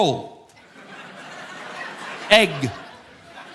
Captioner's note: audience laughing